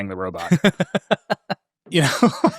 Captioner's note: laughing